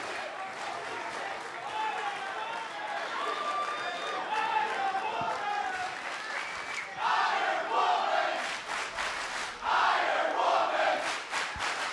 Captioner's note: crowd cheering; crowd chatter